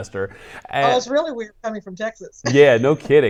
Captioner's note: laughs